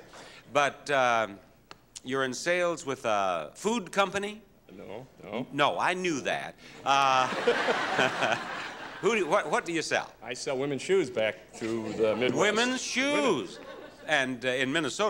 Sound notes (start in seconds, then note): 6.8 audience laughing